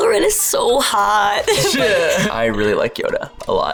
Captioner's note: laughs